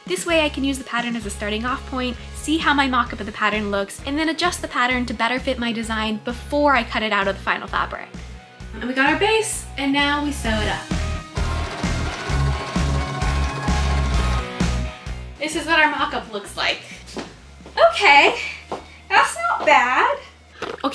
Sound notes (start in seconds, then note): 10.7 upbeat music; 11.2 sewing machine humming